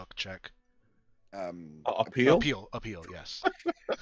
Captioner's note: chuckles